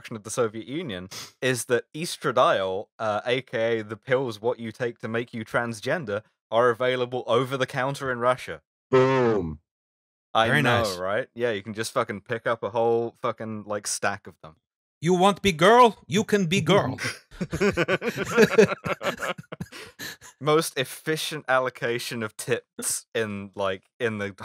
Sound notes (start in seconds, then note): 14.7 bad Russian accent; 17.0 laughter